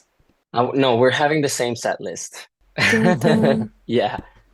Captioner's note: laughter